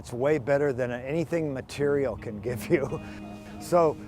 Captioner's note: chuckles